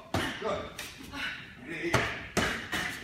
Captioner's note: pads being hit